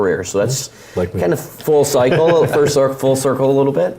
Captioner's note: laugh